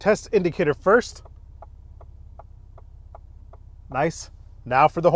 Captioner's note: indicator ticking